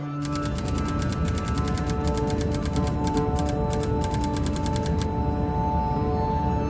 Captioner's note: dramatic music; keys clacking